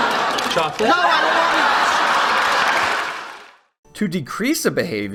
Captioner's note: laughter